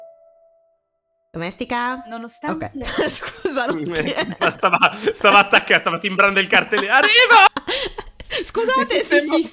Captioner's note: laughs